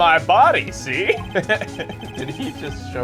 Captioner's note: laughs